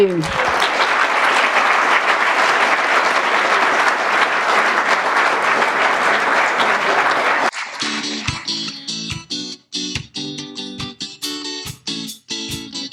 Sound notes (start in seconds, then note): 0.0 applause; 7.7 closing music